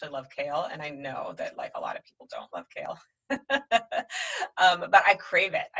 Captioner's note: laughs